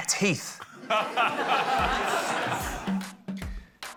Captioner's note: laughter